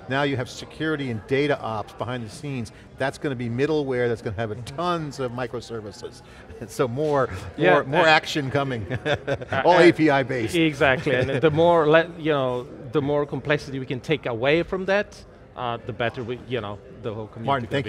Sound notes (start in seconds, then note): 8.7 laughs